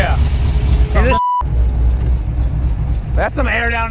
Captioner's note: beep